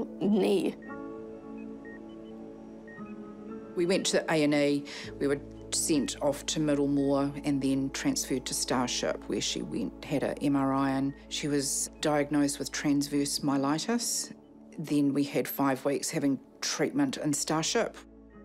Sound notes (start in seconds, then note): 0.8 machines beep steadily